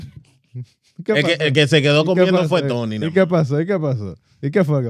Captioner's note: speaking Foreign Language